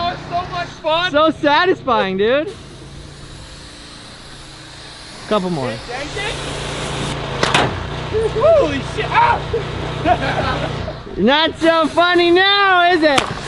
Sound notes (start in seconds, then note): 7.2 paintball gun hissing; 10.2 laughing